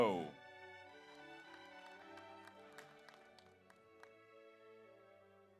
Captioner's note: audience applauds